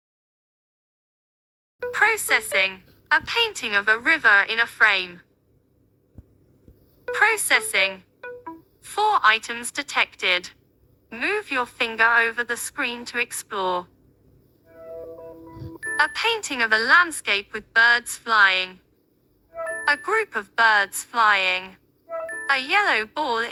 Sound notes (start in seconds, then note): 1.8 tonal beep 2; 8.2 tonal beeps 2